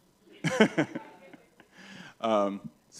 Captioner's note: laughs